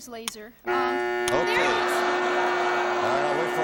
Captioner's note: buzzing